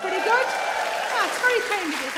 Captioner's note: audience cheers and applauds